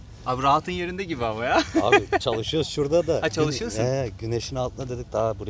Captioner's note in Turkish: kahkaha